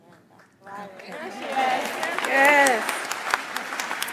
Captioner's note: audience applauds